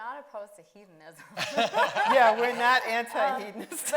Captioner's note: laughing